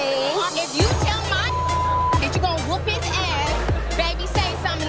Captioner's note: beep